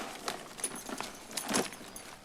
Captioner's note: rustles